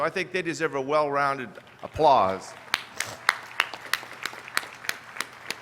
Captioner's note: applause